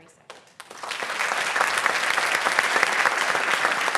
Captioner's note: applause